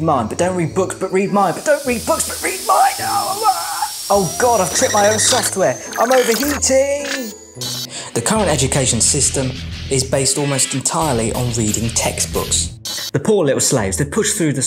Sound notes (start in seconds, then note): 3.1 groaning; 6.9 electronics buzzing; 9.4 rock music